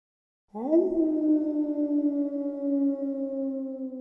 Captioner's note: howling